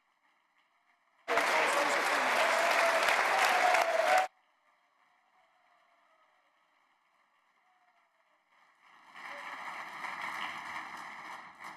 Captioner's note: applause